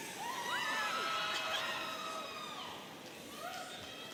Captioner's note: audience cheering